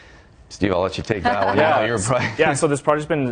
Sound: laughter

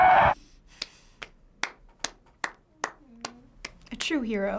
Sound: clapping

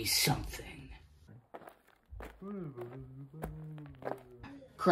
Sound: footsteps

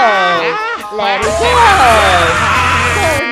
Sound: screams

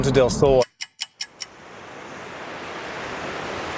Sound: stopwatch ticking; creek water flowing

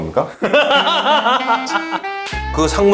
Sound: ahahahaha

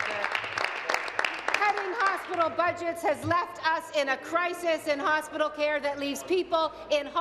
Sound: applause

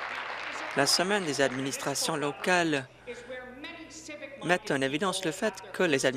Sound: applause

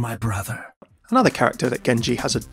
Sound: voiceover

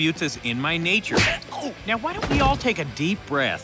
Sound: fist smacking

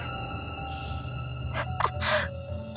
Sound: hiss; snickering

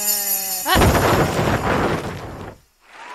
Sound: crash; crowd cheering

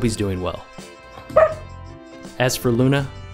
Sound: bark

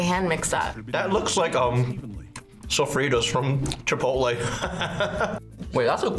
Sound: laughs

